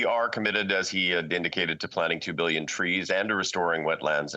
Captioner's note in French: voix de l'interprète